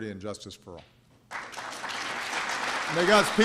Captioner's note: applause